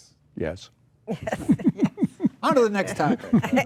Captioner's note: group laughing